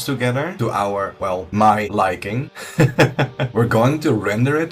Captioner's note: laughs